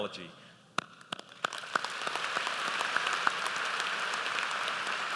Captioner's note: audience applauds